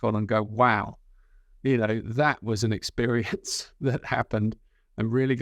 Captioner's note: chuckles